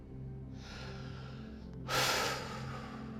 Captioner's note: sighs